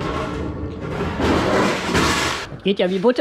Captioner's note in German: krachen